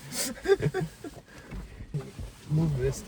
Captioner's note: laughter